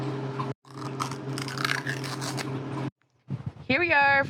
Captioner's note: ripping sounds